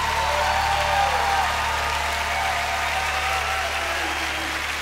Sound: cheers and applause

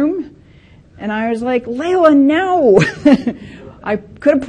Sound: laughs

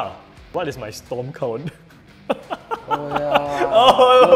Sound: laughs

